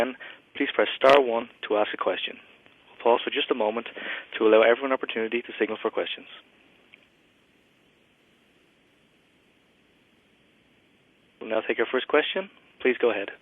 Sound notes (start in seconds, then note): 7.0 pause